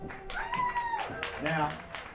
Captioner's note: applause